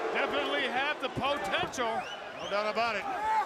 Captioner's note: crowd cheering